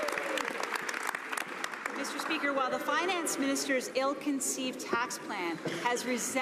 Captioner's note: some Applause